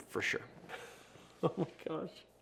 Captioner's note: laughing